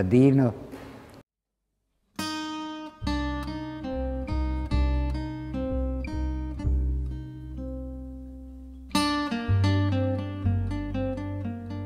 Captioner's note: in bosnian